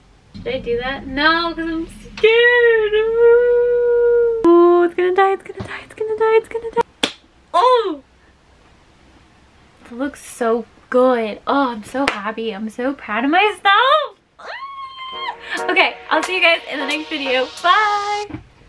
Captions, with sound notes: should i do that no because i'm scared oh it's gonna die it's gonna die it's gonna die it's gonna die *claps* oh! it looks so good!! oh i'm so happy i'm so proud of myself *squeals* okay, i'll see you guys in the next video bye!!